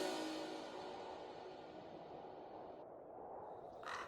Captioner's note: ominous music; wind blowing; crow cawing